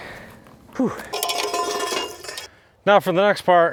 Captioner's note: tools clanging